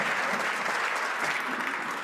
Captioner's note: some Applause